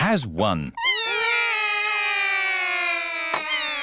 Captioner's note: all cry